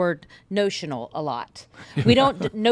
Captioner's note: laughs